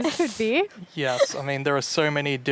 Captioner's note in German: lacht